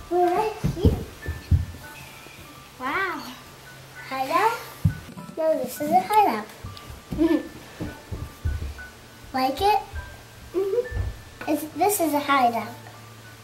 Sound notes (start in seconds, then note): 7.1 giggles